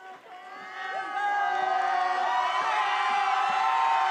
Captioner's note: attendees cheering